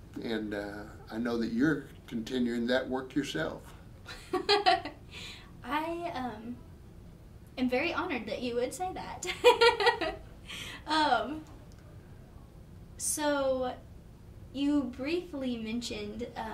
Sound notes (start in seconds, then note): 4.1 laughing; 9.4 laughing